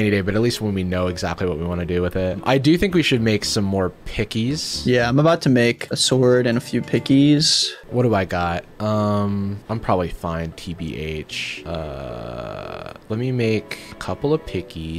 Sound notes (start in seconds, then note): none